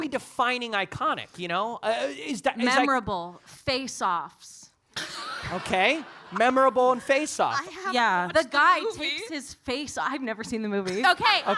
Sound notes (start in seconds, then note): 5.0 audience laughing